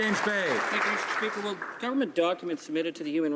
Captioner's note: some Applause